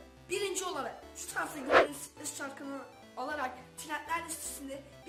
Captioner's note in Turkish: kaydırma sesi